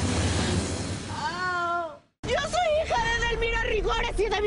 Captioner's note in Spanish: Quejidos